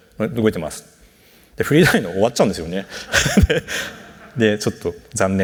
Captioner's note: laughs